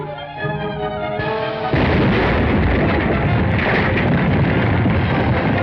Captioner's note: explosion